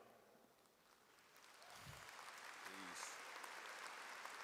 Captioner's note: audience applauds